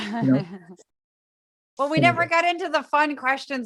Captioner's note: laugh